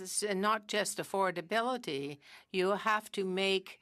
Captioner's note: speaking french